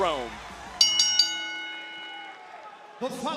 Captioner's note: bell ringing